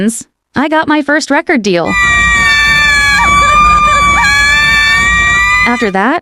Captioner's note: victory Scream